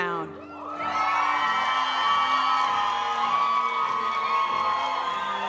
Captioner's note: audience cheering and applauding; graduation music